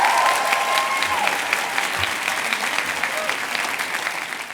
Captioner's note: cheers and applause